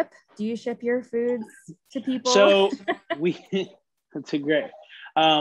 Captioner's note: laughing